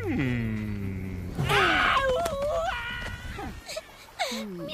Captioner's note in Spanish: gritos de dolor